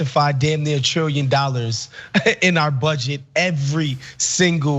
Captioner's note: laugh